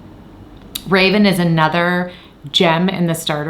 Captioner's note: claps